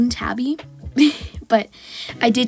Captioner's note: laugh